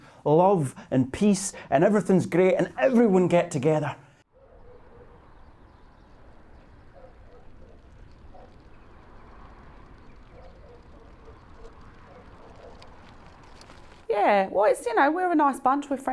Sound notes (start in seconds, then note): 4.8 distant dog barking